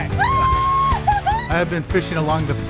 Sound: purple shirt woman screams

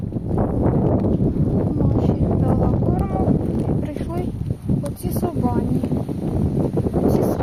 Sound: wind

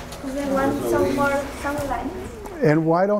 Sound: student mumbling

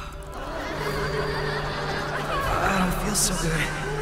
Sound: laughter

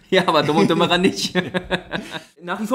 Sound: laughs

